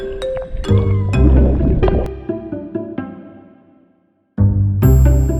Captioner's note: underwater noises